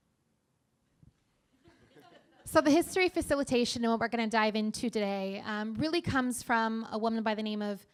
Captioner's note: laughter